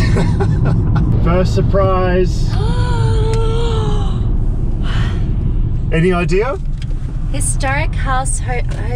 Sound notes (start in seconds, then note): 0.1 laughing; 2.5 gasping